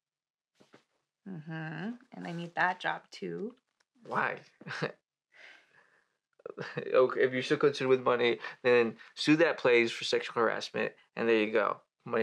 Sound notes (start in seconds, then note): 5.4 she takes a breath; 6.3 he stammers then chuckles; 6.5 he chuckles